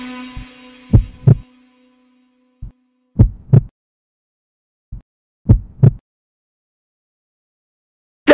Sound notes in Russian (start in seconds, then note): 0.9 Биение сердца